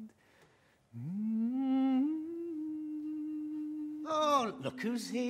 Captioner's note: hums